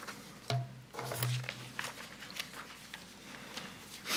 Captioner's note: papers rustling